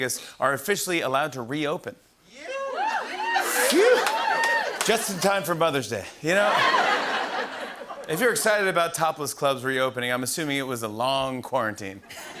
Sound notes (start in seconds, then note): 2.5 scattered cheers; 6.4 laughter; 12.0 laughter